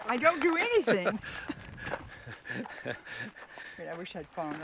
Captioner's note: laughing